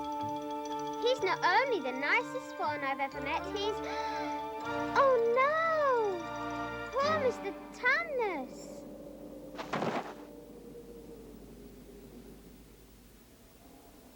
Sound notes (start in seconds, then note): 3.8 gasps; 9.3 wood fragments fall